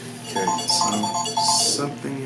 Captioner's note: phone ringing